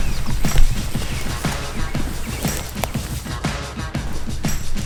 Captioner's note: rustling gravel